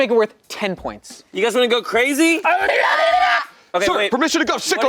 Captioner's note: makes silly noise